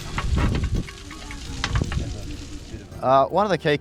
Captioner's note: pan clanking